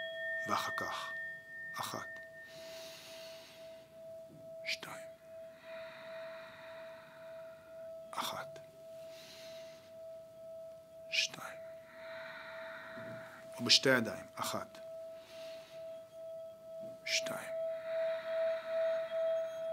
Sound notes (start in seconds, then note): 5.6 exhale; 9.0 inhale; 11.8 exhale; 14.9 exhale